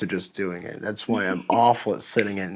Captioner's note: laughing